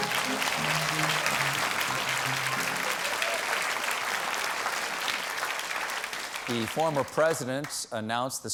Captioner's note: applause